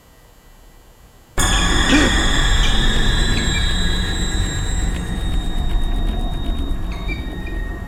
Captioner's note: dramatic music; gasping